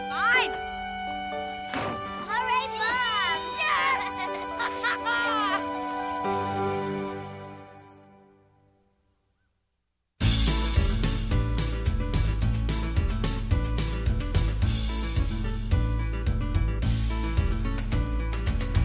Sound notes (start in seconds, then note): 6.7 Alice laughs; 13.8 easygoing country music